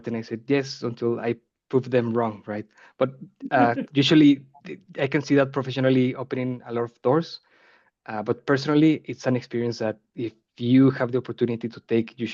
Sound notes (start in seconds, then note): 3.5 chuckling